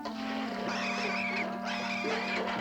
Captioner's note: squealing